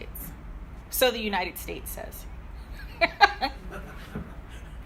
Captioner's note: laughing